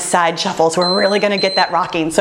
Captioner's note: timer beeping